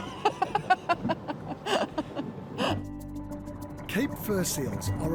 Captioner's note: laughs